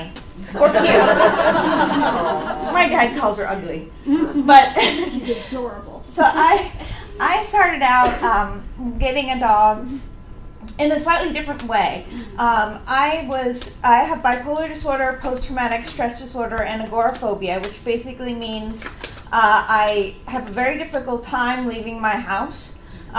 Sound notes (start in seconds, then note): 0.4 audience laughs; 4.1 laughs